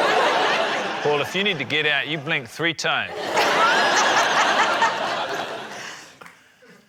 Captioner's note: laughter